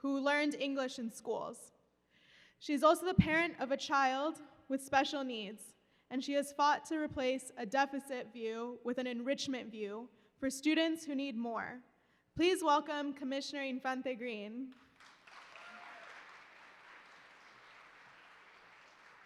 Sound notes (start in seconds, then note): 14.7 applause